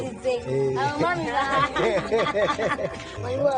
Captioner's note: everyone laughing